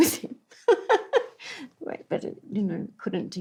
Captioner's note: laughs